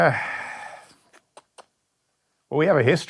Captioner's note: sighing